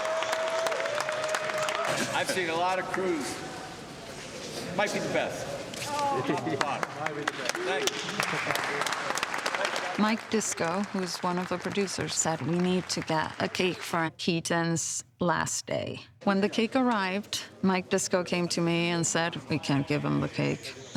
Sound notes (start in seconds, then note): 8.3 all applauding